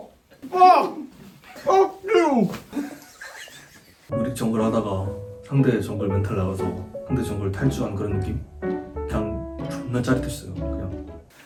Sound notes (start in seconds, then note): 2.8 high praise continues sarcastically